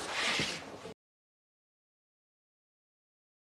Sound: audio cuts out

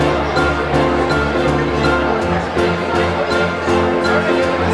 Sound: distant chatter

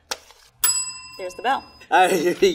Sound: bell ringing

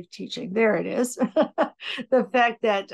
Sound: laughing

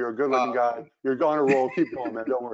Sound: laughs

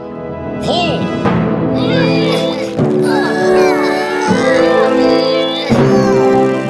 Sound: straining

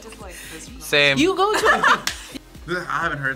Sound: React laughs; laughs

